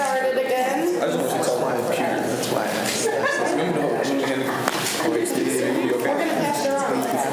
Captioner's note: student chatter